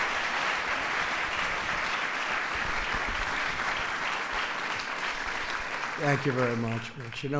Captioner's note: applause